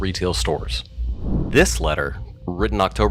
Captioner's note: air whooshes